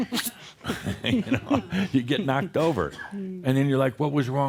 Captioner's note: they chuckle